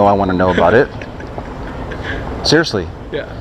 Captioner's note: laughs